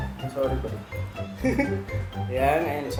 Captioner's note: chuckles